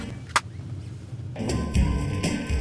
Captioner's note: upbeat Salsa music; phone clicks; upbeat Salsa music